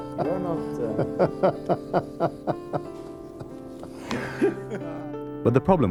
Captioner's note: laughing; laughing